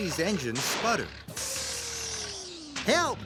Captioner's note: motor slows to stop